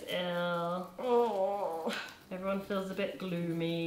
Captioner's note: groaning